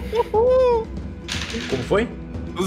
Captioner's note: dice sounds